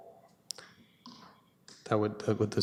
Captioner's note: audio drop